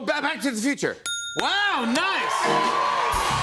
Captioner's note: bell dings; cheers and applause